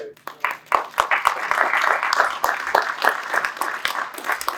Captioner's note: applause